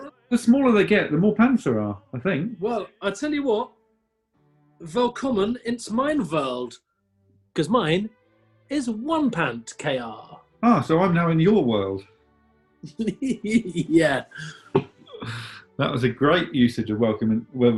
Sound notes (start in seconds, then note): 4.7 anglicised german accent; 12.9 giggling